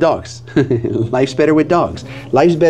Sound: laughs

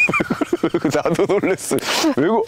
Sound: laughing

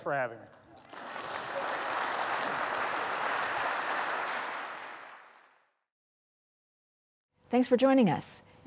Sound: applause

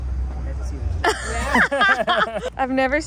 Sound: mom and Dad laughing

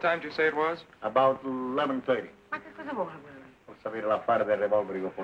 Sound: non-english speech

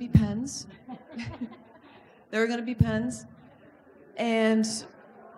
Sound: laughs

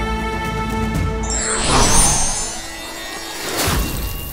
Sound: whooshing

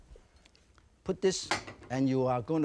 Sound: saucer thuds softly; bowl clinks

